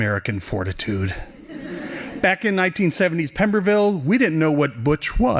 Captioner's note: laughing